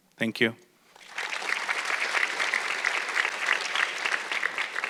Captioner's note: audience clapping